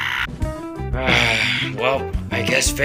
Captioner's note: sighs